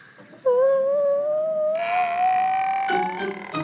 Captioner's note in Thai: เสียงร้อง